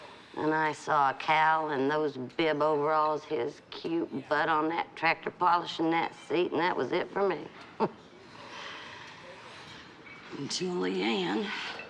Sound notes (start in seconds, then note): 7.6 chuckles